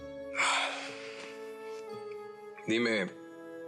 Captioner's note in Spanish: exhala